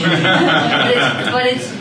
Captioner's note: laughter